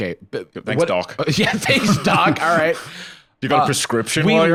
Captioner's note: laughing